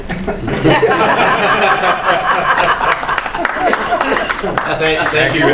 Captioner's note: laughter, applause